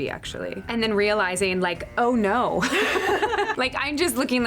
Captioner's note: both laugh